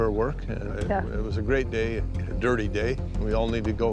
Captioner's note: stammers